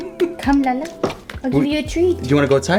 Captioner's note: laughing